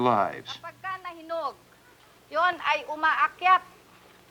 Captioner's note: speaking Filipino